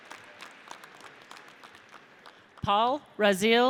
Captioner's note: audience applauds